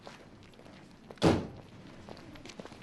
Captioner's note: car door closing